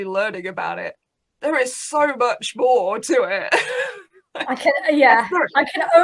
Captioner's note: laughs